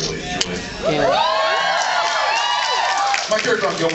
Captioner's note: cheers